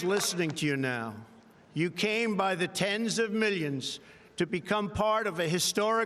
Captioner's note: applause